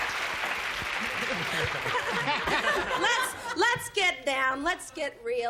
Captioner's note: laughs; cheers